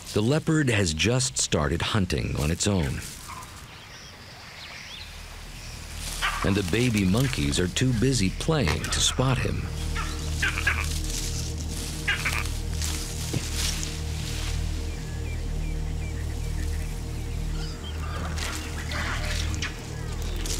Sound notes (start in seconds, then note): 10.2 monkeys making noise